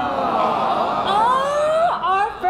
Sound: audience groans

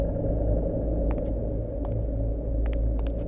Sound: footsteps approaching

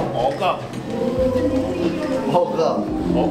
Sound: ant voice

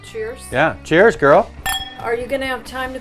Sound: glasses clink

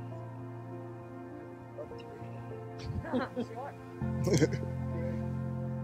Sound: murmurs and laughter

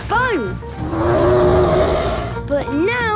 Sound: loud roar

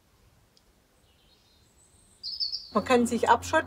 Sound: birds chirping

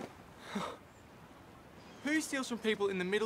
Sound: Ben sighs

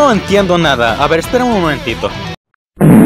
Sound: fart Sound

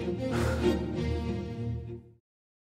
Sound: sighing

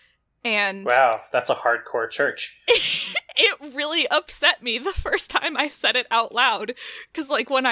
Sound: laughs

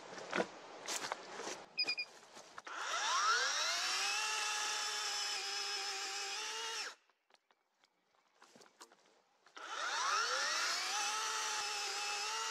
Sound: chainsaw running

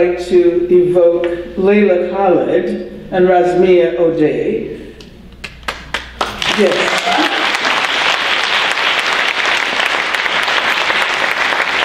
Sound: loud applause

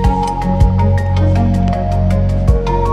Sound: upbeat music; metal clunks; upbeat music

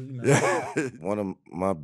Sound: laughing

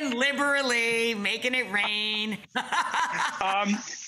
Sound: laughing

